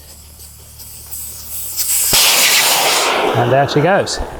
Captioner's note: air whooshing